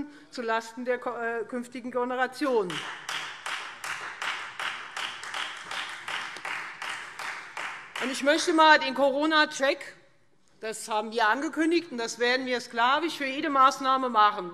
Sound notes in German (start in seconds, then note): 2.6 Beifall Freie Demokraten